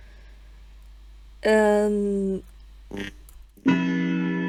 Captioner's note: clock chimes